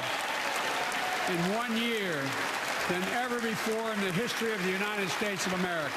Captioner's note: applause